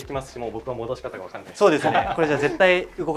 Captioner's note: laughs